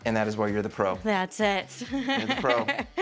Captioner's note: laughs